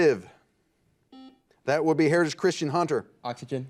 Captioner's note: buzzer beeping